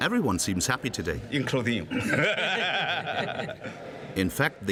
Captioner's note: laughs